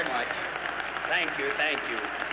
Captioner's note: audience applauds